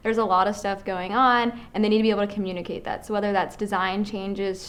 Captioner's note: none